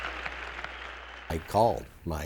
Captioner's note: audience laughs and applauds